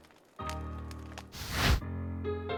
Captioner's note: flame whooshing; lively ragtime music